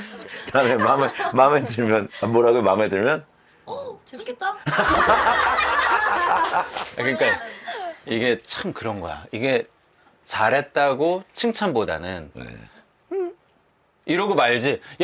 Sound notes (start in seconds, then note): 5.8 clap